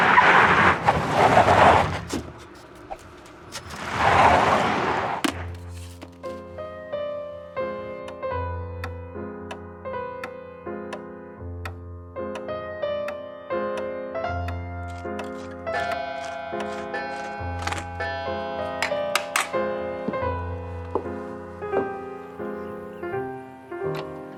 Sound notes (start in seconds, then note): 0.0 tires screeching; 5.2 newspaper thudding; 8.2 stately piano music; 10.2 clock ticking; 15.6 clock chiming